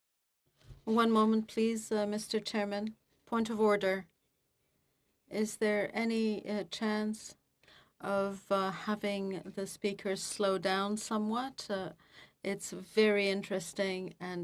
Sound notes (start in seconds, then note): 3.9 speaking French